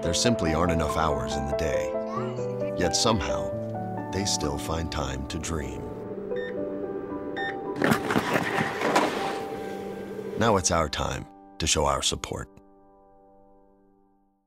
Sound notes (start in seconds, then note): 5.8 beeping